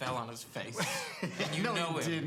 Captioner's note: Noah laughs